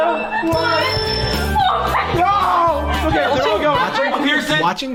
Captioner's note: screaming